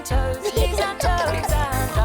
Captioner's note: giggling